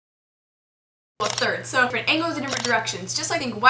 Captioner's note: voiceover